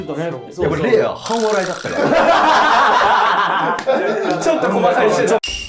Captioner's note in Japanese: 一同：笑い